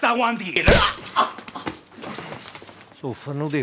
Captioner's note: Omero moans in pain